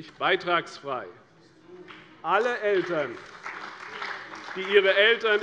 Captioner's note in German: Beifall bei der CDU und dem BÜNDNIS 90/DIE GRÜNEN